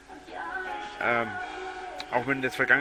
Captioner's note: uhmm